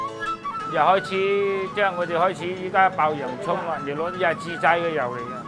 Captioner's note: speaking Cantonese